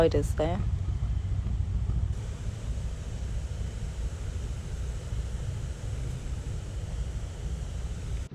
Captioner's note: narrowboat engine sounds